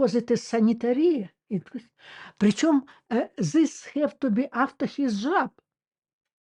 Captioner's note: Russian